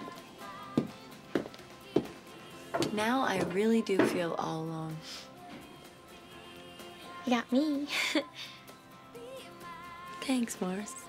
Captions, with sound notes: Now I really do feel all alone. You got me. [ Laughs ] Thanks, Marce.